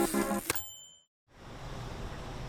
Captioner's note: typewriter dings